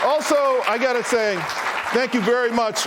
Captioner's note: applause